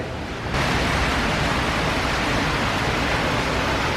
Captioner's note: water gushing